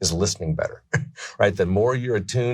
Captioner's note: laughs